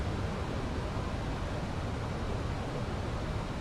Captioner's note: none